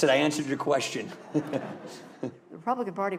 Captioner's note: laughter